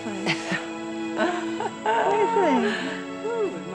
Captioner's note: Wanda laughs